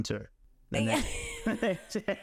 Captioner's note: laughing